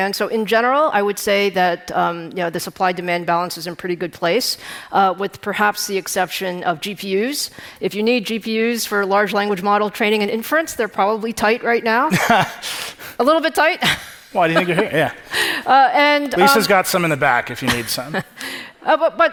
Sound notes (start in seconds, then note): 12.1 laughing; 13.9 chuckling; 17.7 Lisa chuckling